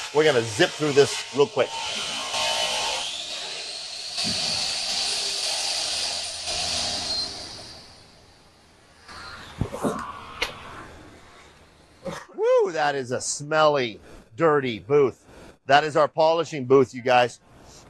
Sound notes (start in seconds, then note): 1.6 machine whirring